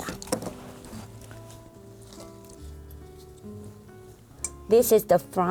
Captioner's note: rustling